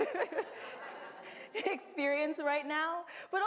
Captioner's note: laughs